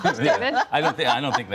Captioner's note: laughter